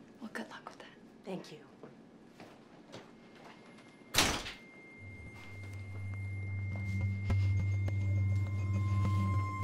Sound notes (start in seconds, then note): 4.2 door slamming; 4.7 quietly tense electronic music